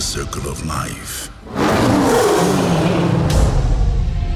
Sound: roar

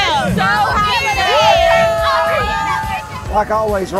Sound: group cheers

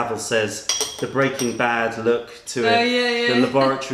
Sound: laughter

